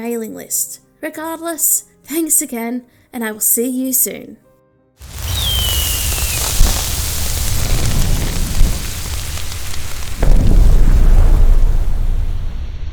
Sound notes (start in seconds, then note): 5.0 fireworks; 9.9 explosion; 12.7 static sound